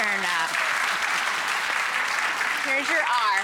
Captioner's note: audience claps